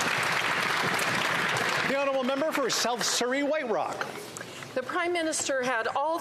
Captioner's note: some Applause